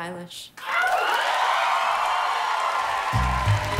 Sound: applause

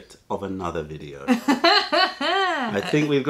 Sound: laughter

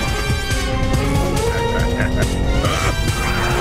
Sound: grunts

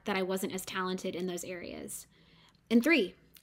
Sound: none

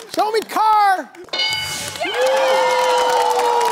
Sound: bell dings; cheering/applause

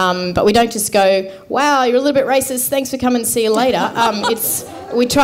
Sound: laughter

